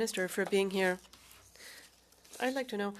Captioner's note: speaking French